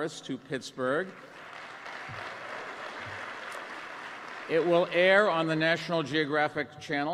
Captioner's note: applause